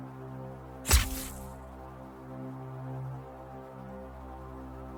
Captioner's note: sword whooshes